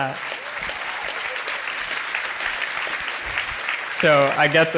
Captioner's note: crowd applauds